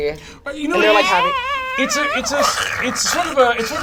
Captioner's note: imitates creaking